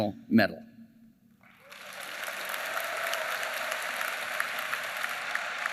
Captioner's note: applause